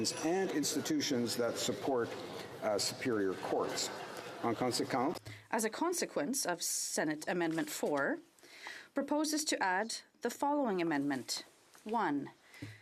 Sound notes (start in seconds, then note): 7.4 speaking French